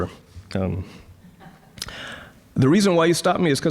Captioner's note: audience chuckling